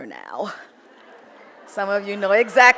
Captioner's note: audience laughs